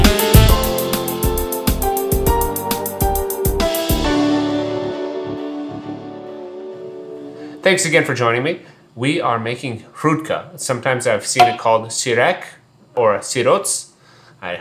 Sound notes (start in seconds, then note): none